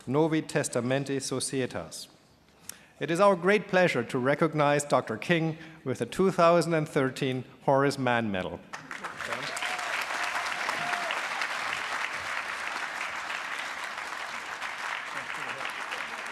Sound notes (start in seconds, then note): 11.7 applause